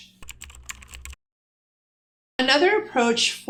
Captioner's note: typing